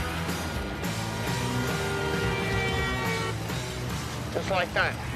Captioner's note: car horn blares